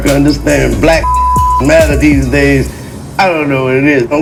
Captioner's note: beeps